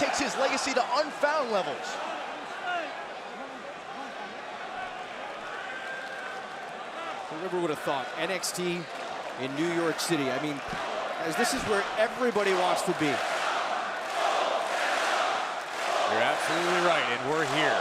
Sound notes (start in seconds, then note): 14.0 crowd cheering